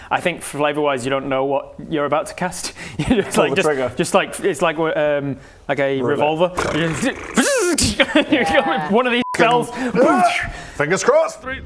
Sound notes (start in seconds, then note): 6.6 fzzzzzzzztzh